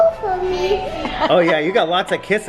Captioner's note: laughs